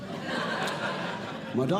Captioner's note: audience Laughing